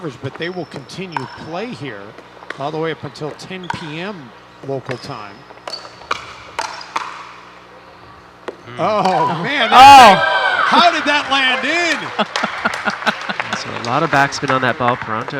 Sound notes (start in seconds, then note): 5.4 ball bouncing; 12.0 laughing